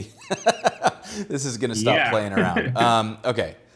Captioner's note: laughs